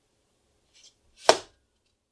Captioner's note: slap on table